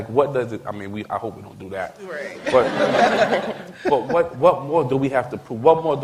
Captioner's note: laughter